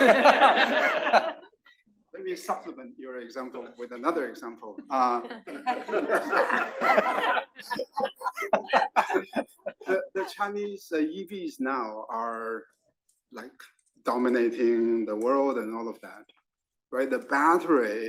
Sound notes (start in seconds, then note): 0.0 laugh; 4.7 laugh